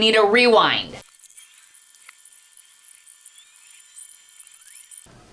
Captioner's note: tape rewinding noise